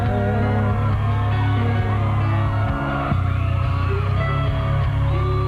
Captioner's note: applause